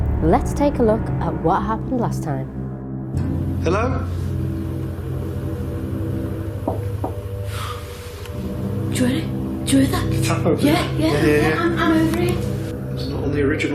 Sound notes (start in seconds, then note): 6.6 knocking